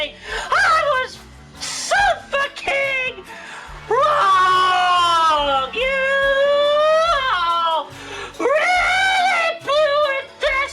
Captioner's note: crying loudly